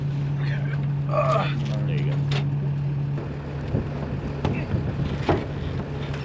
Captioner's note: grunts